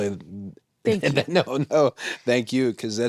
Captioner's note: chuckles